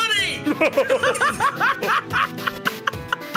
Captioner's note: laugh